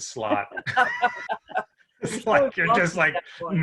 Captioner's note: all laughing